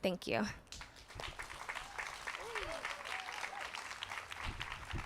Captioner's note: audience claps